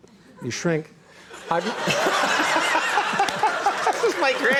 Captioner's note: laughing loudly